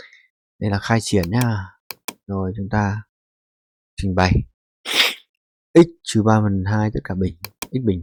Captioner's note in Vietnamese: khịt mũi